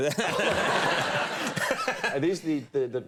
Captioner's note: audience laughing